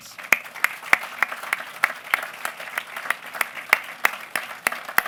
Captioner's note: applause